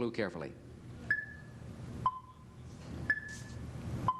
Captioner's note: clock ticking